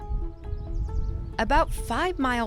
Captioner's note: birds chirping; soft music